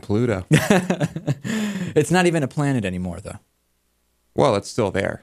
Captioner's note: laughs